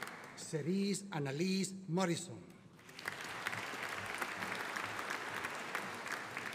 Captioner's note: audience applauding